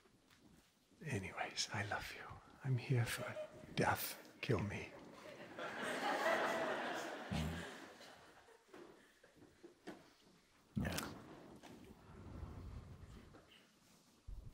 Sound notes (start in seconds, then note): 5.0 laughter